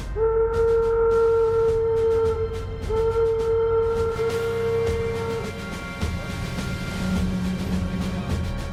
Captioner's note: sound of horn; sound of drumroll